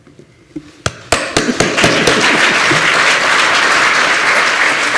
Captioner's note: applause